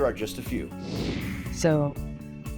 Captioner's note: screen whooshing